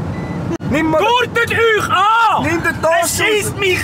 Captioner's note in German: Alarmgeräusch - Angurten!; schreit